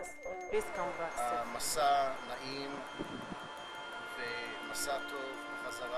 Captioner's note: speaking hebrew